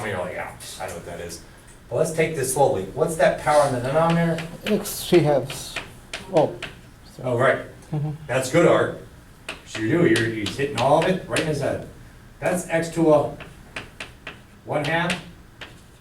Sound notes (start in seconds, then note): 5.3 voiceover